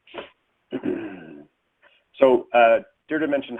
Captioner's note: clears throat